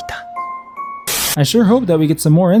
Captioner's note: TV static